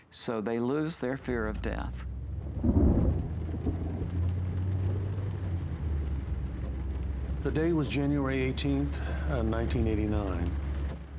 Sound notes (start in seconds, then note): 2.4 rolling thunder and raindrops